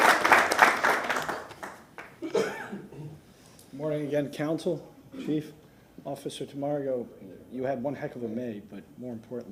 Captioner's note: applause